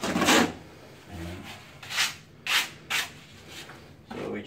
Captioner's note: taping knife scraping